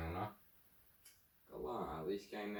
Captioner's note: clicks tongue